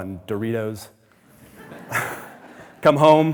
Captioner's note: audience laughing